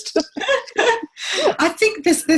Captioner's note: laughs